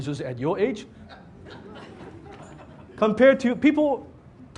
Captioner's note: audience laughs